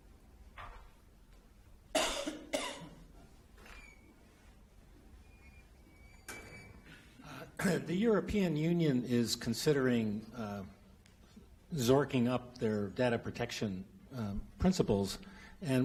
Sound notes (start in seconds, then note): 1.9 coughing